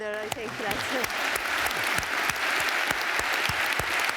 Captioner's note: applause